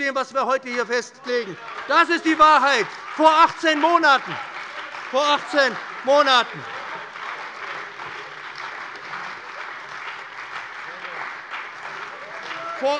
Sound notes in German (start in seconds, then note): 2.7 Lebhafter Beifall bei dem BÜNDNIS 90/DIE GRÜNEN und der CDU - Zurufe von der SPD; 6.6 Anhaltender Beifall